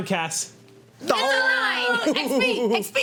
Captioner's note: groaning